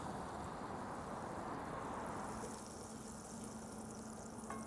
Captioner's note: butter sizzling